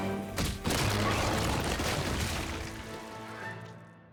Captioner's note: thudding